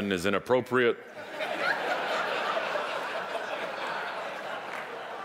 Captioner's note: audience laughing